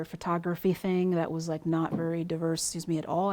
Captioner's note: mic pings